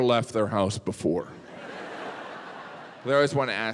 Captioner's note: audience laughs